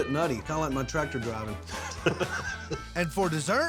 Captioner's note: chuckling